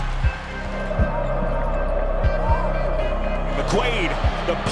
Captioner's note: audience cheering